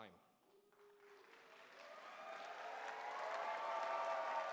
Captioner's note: applause